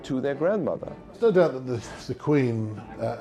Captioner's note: voiceover